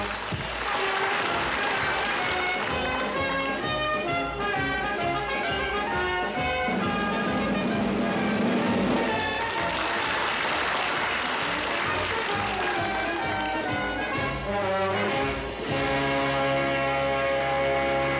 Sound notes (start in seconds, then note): 0.1 audience applauds; 7.6 drumbeat rolls; 9.9 audience applauds